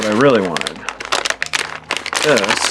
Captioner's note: package rustling